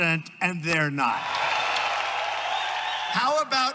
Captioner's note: crowd cheering